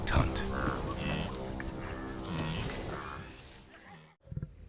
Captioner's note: prey grunting